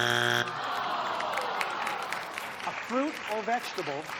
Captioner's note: buzzer sounds; crowd groans